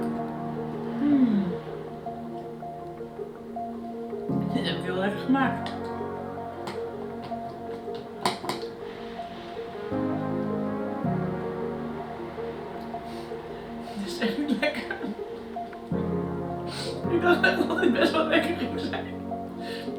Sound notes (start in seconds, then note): 1.0 grunts; 14.0 laughs